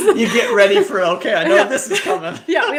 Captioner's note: laughing